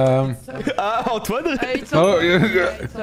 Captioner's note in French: rire